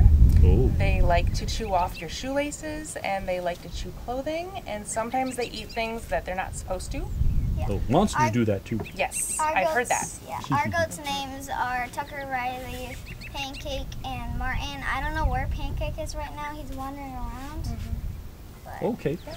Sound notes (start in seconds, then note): 10.4 laughter